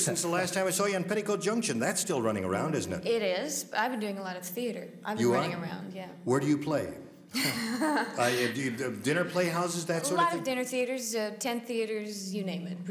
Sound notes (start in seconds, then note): 7.3 laughs